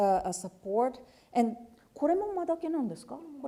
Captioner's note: speaking japanese